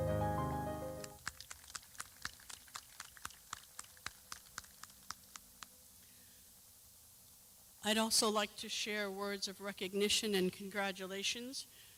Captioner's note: clapping